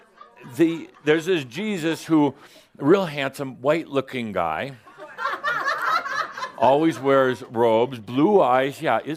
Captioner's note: some giggles